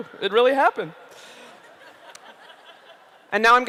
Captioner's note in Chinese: 笑聲